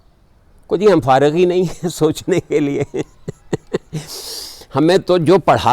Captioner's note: laughing